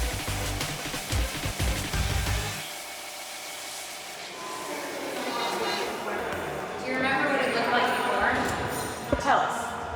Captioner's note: pressure washer hums